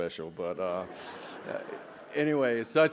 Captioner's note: laughter